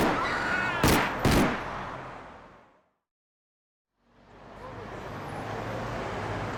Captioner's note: people screaming; gun firing